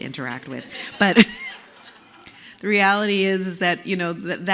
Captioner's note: laugh